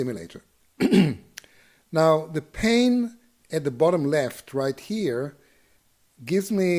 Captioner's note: cough